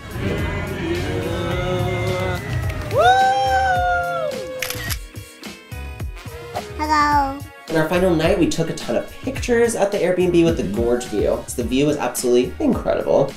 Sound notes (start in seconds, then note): 2.4 all clapping and laughing; 4.6 camera shutters